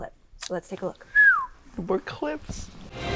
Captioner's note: Dustin whistles; squishing noises; dramatic music